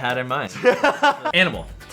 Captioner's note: laughs